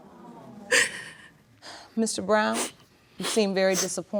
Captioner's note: sighs